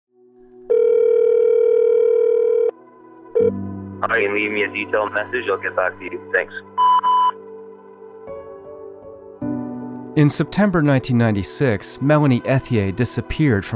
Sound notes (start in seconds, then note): 0.7 phone ringing; 6.7 voicemail beep